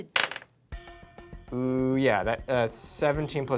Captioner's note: rolls dice